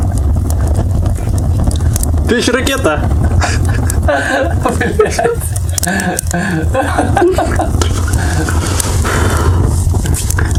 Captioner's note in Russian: смех и нецензурная лексика